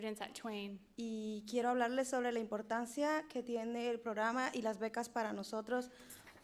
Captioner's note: speaking in foreign language